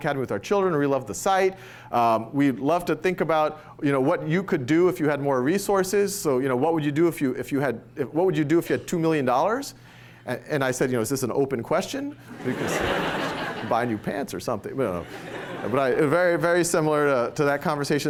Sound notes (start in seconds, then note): 12.3 laughter